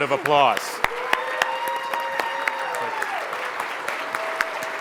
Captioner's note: audience applauds